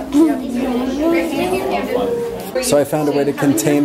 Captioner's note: background chatter